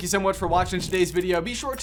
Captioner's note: digital whirring